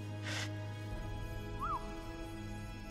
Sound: whistle

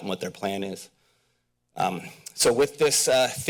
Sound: pause

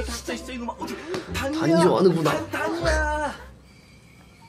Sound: laughs

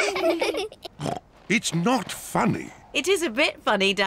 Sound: all laugh; snorts

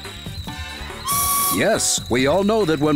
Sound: kettle whistles

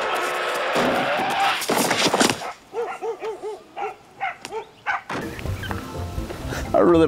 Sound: horn honking; brakes squealing; head thuds loudly; dogs barking

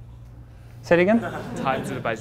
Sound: class laughs

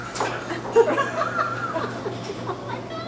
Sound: laughing

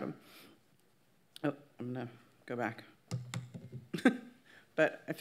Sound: laughs

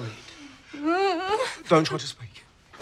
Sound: groaning

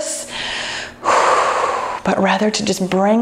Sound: exhales deeply

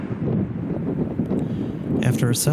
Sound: wind whooshing

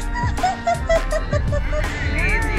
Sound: laughing

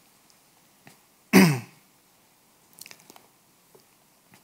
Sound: clears throat

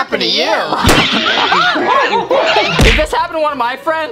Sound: laughing

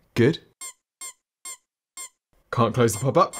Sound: squeaks

